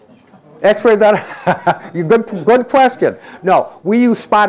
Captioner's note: laughs